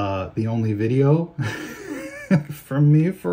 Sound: chuckles

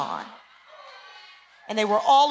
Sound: cheering

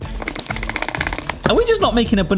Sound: stirring sounds

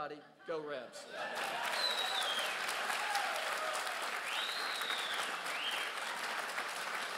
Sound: crowd cheers and claps

